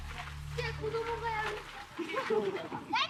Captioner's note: child in Japanese